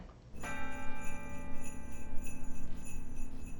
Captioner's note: bell chimes